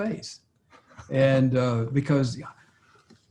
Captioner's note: laughs